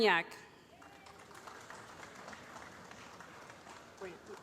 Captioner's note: applause